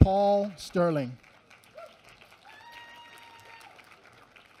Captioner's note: applause